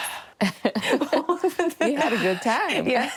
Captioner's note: laughter